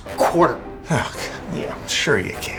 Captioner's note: snorts